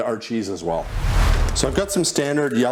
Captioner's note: graphic whooshes